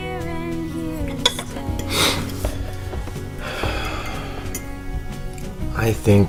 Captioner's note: exhales sharply; sniffles